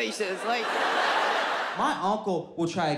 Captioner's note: audience laughs